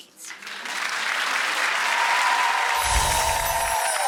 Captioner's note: applause